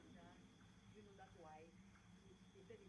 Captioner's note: neighbours talking outside